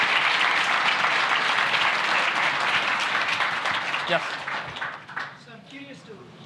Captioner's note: applause